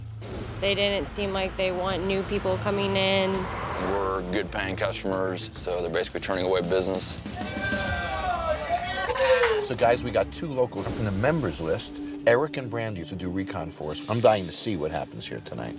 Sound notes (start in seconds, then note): 7.2 crowd cheering